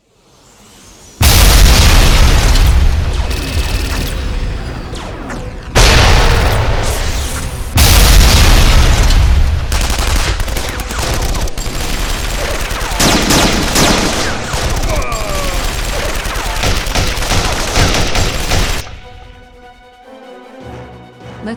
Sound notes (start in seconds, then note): 1.2 cannons blasting; 1.2 explosions booming; 9.7 gun blasting; 14.8 guard groans; 19.1 dramatic orchestral music